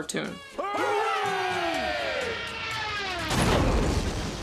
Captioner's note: crowd